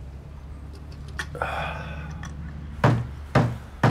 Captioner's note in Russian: выдыхает; стук в дверь